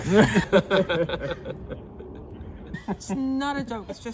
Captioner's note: group laughing